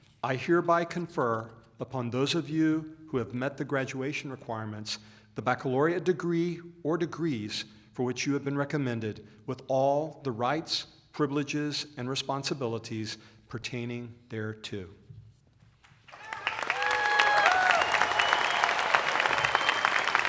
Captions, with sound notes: TRINITY UNIVERSITY, I HEREBY CONFER UPON THOSE OF YOU WHO HAVE MET THE GRADUATION REQUIREMENTS, THE BACCALAUREATE DEGREE OR DEGREES FOR WHICH YOU HAVE BEEN RECOMMENDED, WITH ALL OF THE RIGHTS, PRIVILEGES AND RESPONSIBILITIES PERTAINING THERE TO . [ APPLAUSE ]